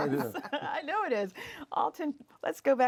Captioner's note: laughs